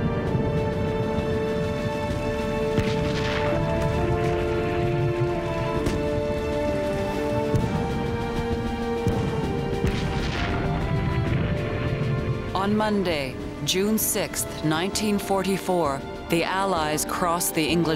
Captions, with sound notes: [gunfire] [gunfire] ON MONDAY, JUNE 6th, 1944, THE ALLIES CROSS THE ENGLISH CHANNEL.